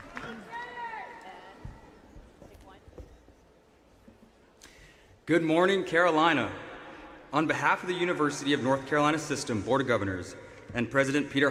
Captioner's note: applause